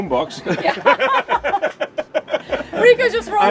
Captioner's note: people laugh